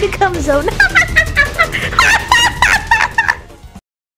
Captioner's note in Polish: Wiewiórczy śmiech